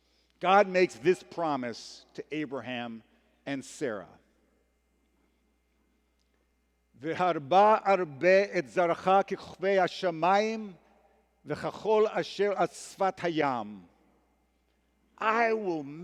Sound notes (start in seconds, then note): 7.1 hebrew